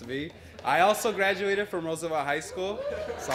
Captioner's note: applause